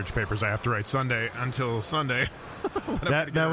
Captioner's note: laughing